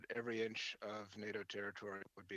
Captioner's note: speaking French